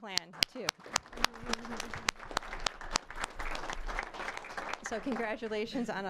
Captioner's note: applause